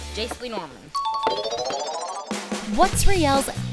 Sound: ding ding

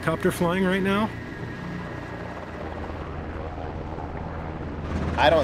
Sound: helicopter flying past

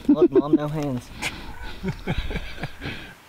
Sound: laughing

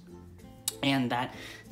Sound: lip Smack

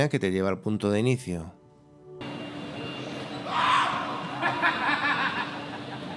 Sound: laughs

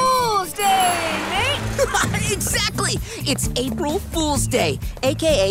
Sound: chuckles

